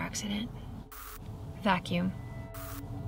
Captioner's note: static crackles